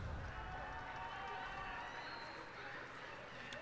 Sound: cheers and applause

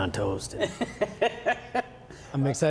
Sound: laughing

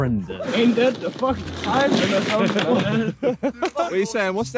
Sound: indistinct chattering

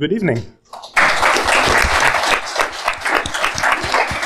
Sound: audience claps

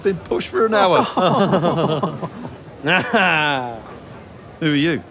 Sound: all laugh

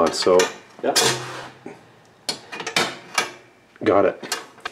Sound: lever clanging

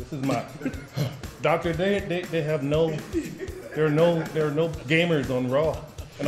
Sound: laugh

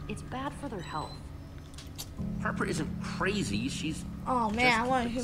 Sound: studio door creaks open

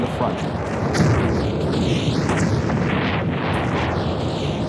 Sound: explosions booming

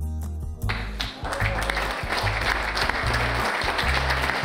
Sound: applause

